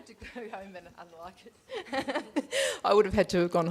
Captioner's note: laughs